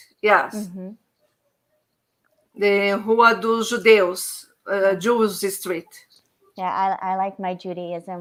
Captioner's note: speaking Portuguese